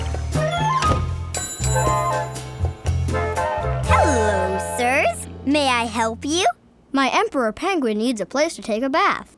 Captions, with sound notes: [bell chimes] Hello sirs, may I help you? My emperor penguin needs a place to take a bath.